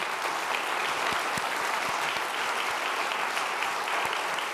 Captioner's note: applause